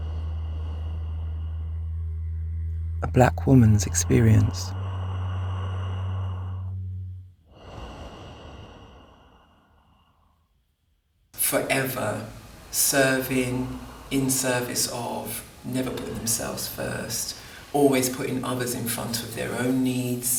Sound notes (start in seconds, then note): 1.2 breathing